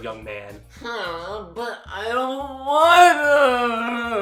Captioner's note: whining